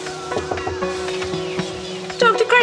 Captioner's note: door knocking